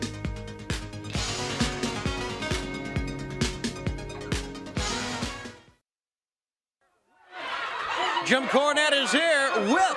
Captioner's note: crowd chatter